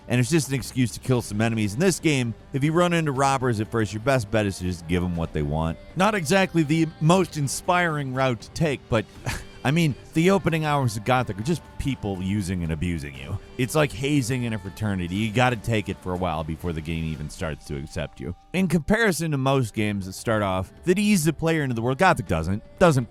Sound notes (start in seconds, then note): 9.2 laughs